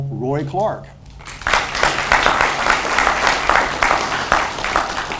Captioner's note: audience applauds